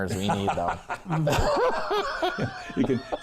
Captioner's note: everyone laughing